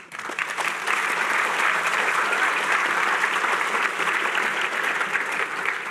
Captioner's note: applause